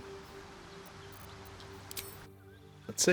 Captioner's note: silence